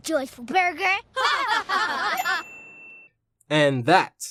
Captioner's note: laughing